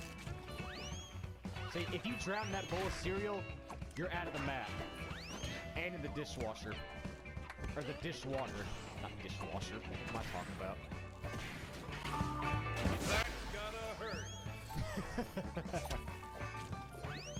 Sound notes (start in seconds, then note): 14.6 laugh